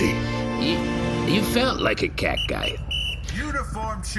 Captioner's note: music stops; tweeting of a referee whistle